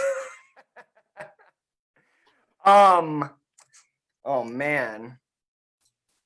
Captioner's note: laughs